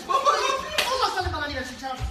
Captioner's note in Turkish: şaplak